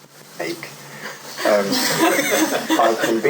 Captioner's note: laughter